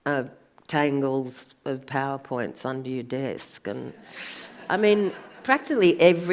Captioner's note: audience laughs